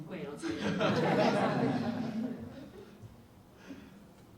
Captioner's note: audience laughs